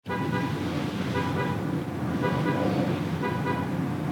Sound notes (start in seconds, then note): 0.0 car horn honking